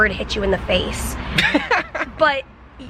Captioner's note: chuckling